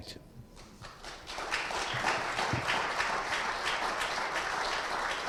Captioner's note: audience applauding